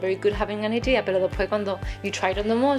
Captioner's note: speaks foreign language